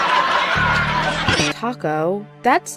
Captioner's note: canned laughter